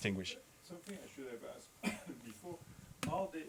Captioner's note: coughs